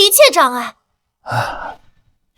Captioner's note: sighs